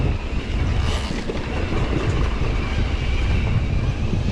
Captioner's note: bike hums